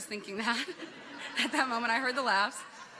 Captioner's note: people chuckle